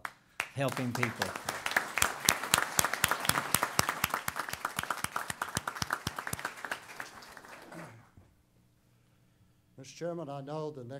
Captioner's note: applause